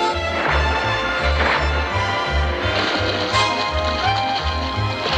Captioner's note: water splashing